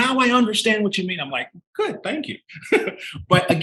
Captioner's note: chuckling